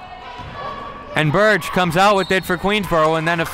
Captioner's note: referee blows whistle